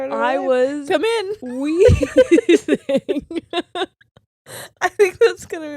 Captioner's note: laughing